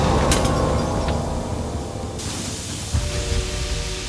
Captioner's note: engine hissing